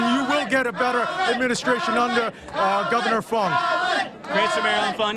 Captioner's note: chanting "allan"